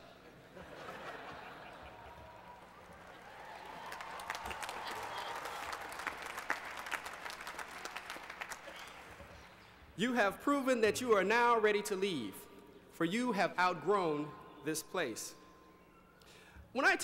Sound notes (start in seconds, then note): 0.2 laughter; 4.1 applause